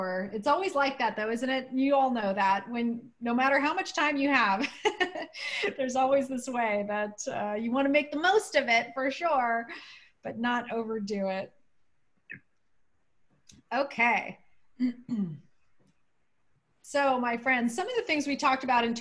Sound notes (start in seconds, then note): 4.6 laughter